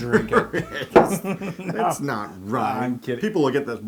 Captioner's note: laugh